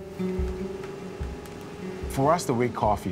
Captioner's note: soft guitar music; grain grinding